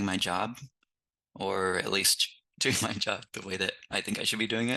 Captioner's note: chuckles